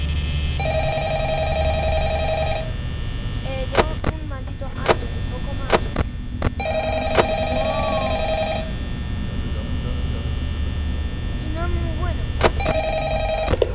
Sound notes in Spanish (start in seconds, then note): 0.3 Suena el teléfono; 6.6 Suena el teléfono x2; 12.9 Suena el teléfono x3